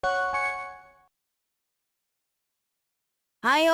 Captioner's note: silence